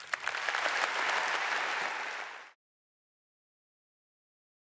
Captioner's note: audience applause